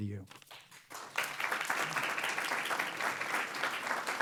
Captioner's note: audience applauds